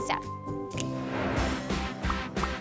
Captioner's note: fingers snapping; upbeat music